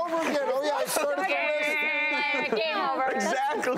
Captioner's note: makes buzzer sound